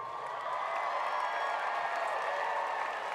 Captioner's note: applause